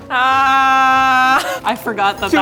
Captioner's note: yelling